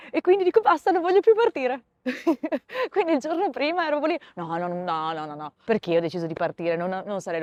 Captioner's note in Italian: risate